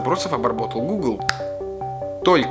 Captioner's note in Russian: Щелчок пальцами